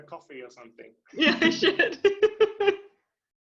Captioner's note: laughing